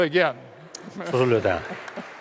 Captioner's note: applause; laughter; foreign Language